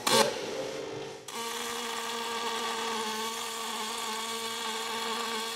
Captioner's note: welding machine sounding